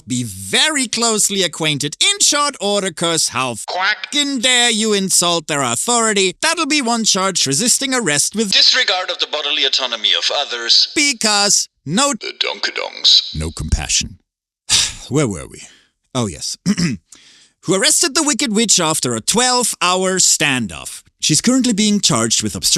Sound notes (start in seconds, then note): 14.7 sigh; 16.6 clears throat